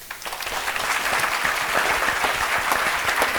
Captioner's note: applause